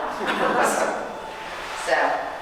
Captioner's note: audience chuckling